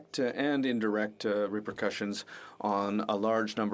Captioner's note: speaking French